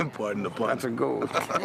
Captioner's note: chuckles